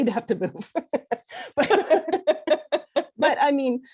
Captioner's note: laughs